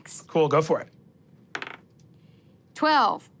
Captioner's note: dice rolling